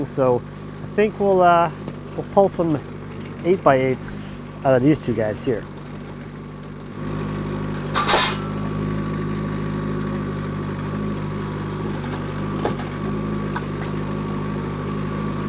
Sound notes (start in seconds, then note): 6.7 skid-steer whirring; 7.6 metal clanks